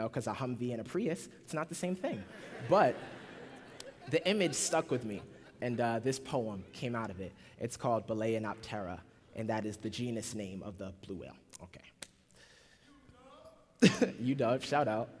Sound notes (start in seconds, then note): 2.2 laughter